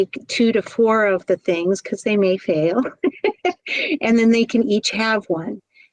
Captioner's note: laugh